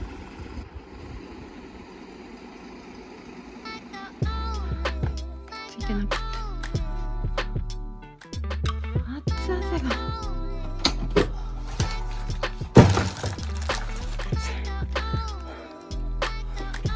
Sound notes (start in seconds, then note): 9.1 sob